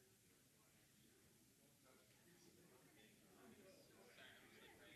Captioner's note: group chattering